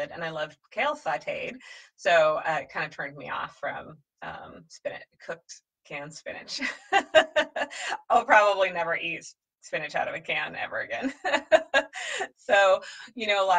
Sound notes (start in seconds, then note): 6.7 laughs; 11.1 laughs harder